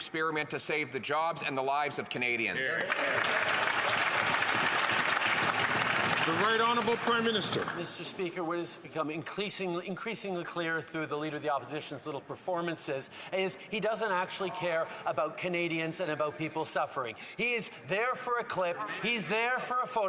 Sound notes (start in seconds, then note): 6.8 some Applause